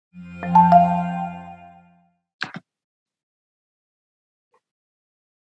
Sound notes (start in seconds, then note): 0.2 soft music; 2.3 music stops